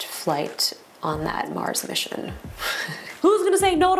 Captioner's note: laughs